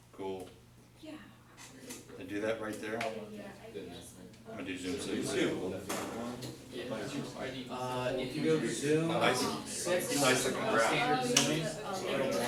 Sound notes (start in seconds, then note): 4.5 students discussing